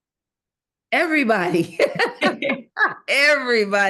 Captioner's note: laughs